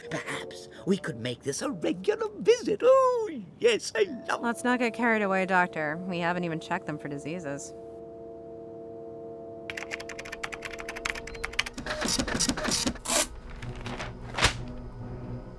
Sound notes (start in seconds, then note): 9.7 keyboard keys clicking; 11.6 printer buzzing, Paper tears